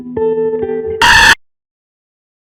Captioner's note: high-pitched, earrape